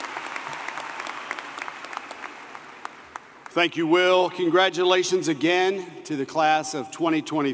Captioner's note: applause